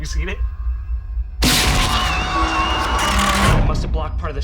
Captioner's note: screeching; tape ripping